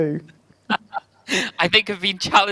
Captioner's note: laugh